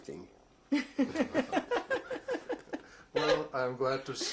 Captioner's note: laughter